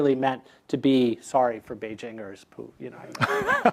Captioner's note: laugh